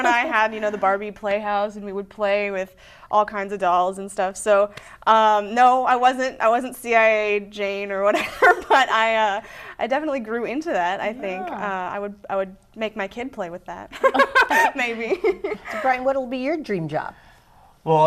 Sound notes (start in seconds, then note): 0.0 laughter; 8.0 laughing; 13.9 laughter; 14.0 laughing